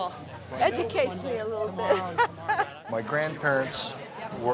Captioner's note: laughs